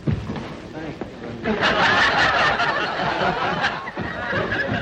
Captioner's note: crowd laughing